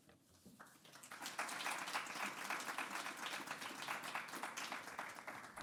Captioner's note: audience applauds